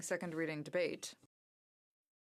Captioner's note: speaking french